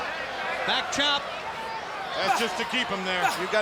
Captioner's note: blows thudding